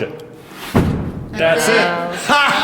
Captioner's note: bang